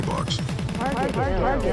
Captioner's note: crowd chattering